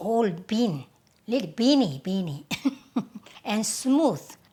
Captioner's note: laughs